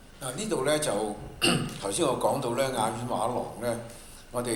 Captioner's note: Cantonese